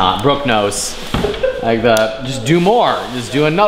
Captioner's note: laughing